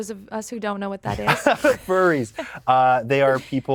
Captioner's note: laughs